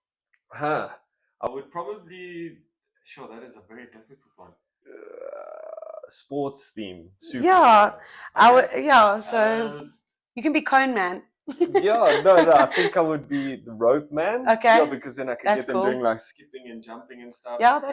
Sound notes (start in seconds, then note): 5.5 croaky; 7.4 shouting